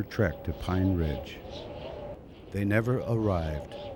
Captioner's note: wind gusting